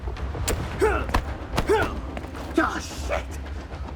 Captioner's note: both moaning